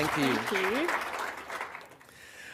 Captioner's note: applause